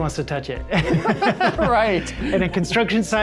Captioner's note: laughter